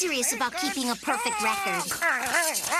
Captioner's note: squawking